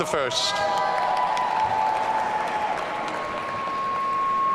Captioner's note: audience cheering